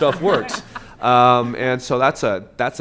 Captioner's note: laughter